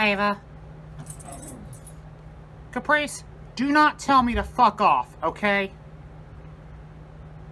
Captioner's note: Ella growls